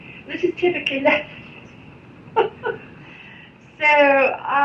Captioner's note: chuckles